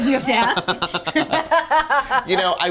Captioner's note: both laughing